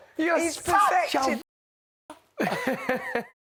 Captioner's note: imitating trish; laughs